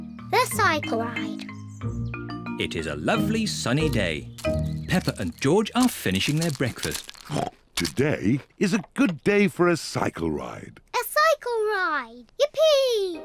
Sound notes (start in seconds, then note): 7.2 snorts